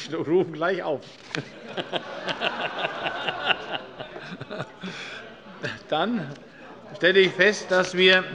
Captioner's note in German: Heiterkeit